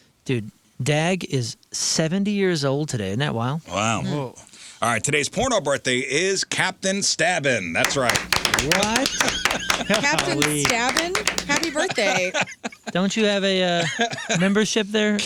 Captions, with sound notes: Dude, Dag is 70 years old today, isn't that wild? Wow. All right, today's porno birthday is Captain Stabbin, that's right. (clapping) What? Captain Stabbin, happy birthday. Don't you have a membership there?